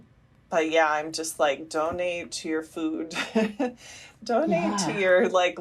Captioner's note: laughter